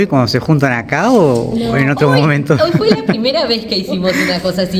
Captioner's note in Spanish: risas